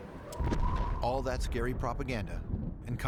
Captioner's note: explosion